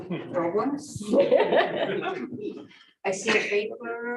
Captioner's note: laughter